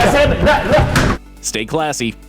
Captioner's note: yelling, arguing